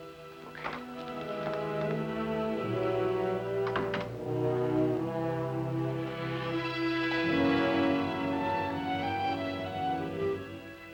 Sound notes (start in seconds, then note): 3.5 door closing; 6.7 soft dramatic music